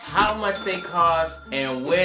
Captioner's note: ka-ching